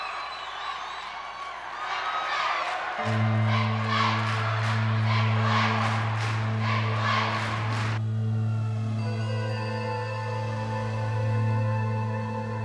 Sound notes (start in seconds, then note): 5.0 crowd chanting; 8.5 dramatic music